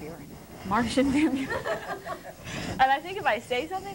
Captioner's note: laughter